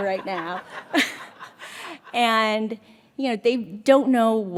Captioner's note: audience laughs